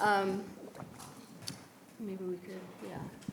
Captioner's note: faintly speaking